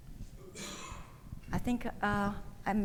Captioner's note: attendee coughing